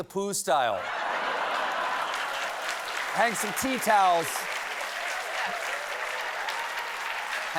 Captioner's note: laughter; applause